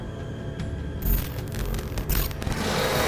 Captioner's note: static buzzing; growling